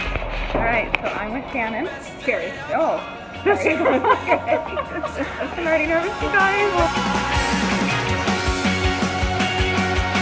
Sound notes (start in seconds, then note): 0.0 upbeat music; 3.4 both laugh; 6.6 upbeat music